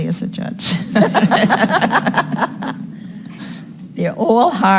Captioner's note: laughing